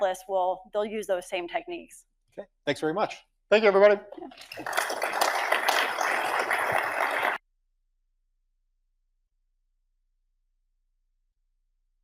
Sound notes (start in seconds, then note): 4.2 audience applauds